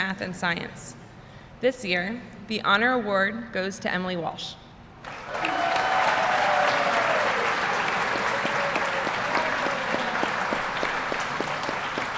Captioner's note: applause